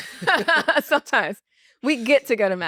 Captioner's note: laugh